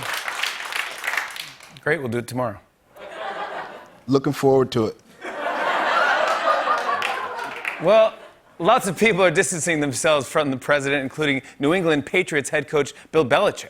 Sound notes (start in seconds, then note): 5.1 laughter